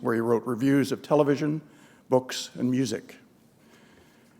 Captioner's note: none